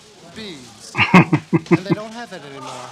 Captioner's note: chuckling